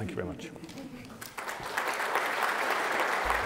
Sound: applause

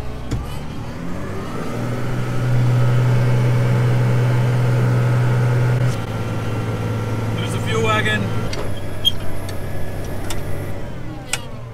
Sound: tractor sound

